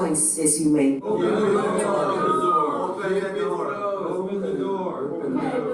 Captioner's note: people chattering